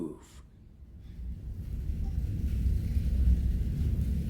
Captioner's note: fire crackles